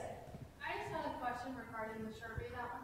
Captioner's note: voiceover